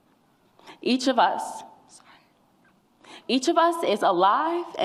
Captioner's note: tearfully